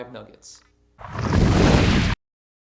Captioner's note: thunder